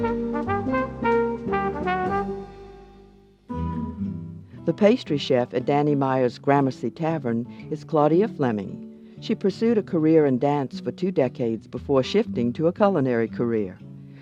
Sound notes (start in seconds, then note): 4.6 voiceover